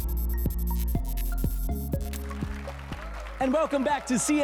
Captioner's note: applause and cheers